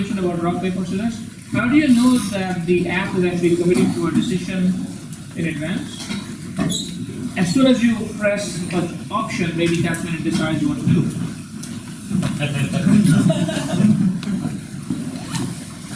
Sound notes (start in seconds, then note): 12.8 laughing